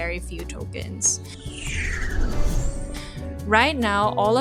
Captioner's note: whoosh transition